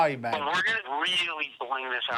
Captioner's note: on phone